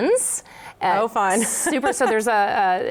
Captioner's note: laughs